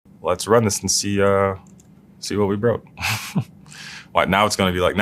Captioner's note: laugh